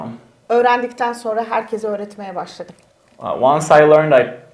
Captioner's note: speaks in Turkish